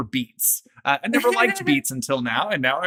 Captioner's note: laughing